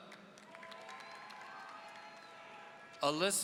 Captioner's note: audience cheering